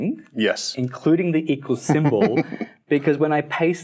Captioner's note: laughing